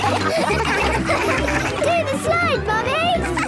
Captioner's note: all laughing